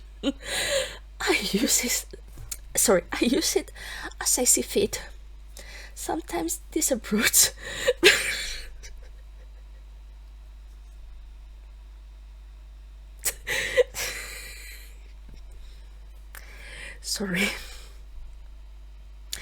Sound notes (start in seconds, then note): 7.9 more laughter